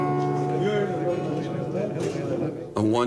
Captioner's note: men chattering in foreign language